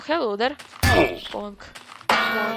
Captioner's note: cartoon hammer sound effect; bat hit sound